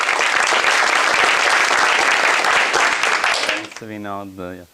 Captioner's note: applause